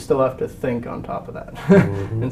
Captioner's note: laugh